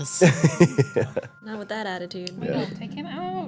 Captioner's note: laughing